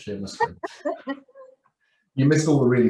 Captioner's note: laughing